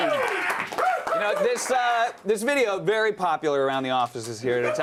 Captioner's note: applause